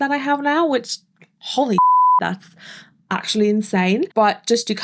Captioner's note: beep